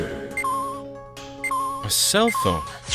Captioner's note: slow beeping